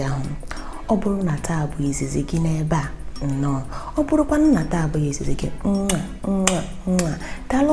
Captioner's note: kisses